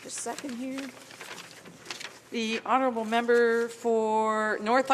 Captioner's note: speaking French